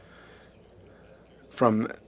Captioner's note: speaking French